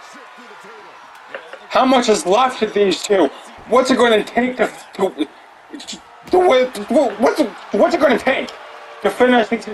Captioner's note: stmbles over words